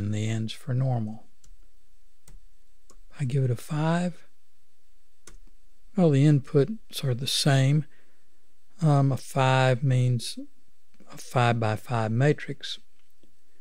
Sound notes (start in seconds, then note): 5.2 click